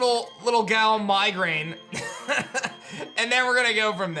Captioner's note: laughs